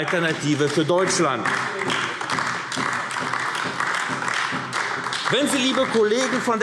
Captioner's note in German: Beifall AfD